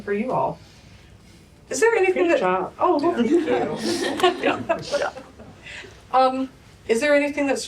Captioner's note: laughter